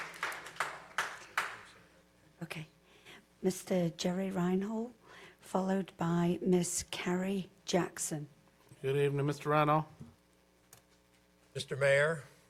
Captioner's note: applause